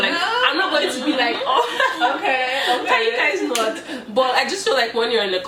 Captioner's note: laughter